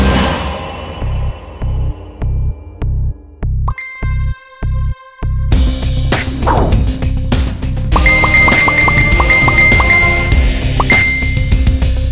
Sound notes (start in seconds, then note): 3.7 Notification tone; 8.0 Notification tones